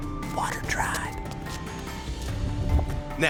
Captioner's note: whispering